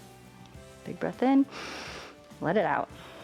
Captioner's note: inhales